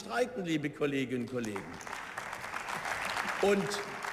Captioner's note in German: Beifall